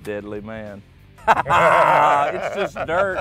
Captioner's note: laughing